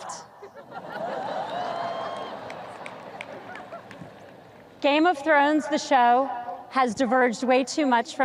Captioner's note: audience laughs